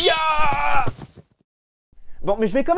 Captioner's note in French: Bruits de pas